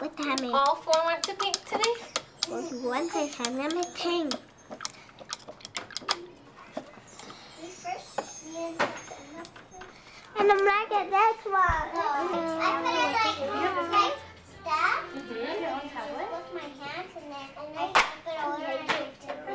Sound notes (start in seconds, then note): 0.0 singing; 0.5 background chatter